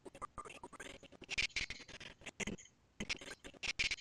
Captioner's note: audio skipping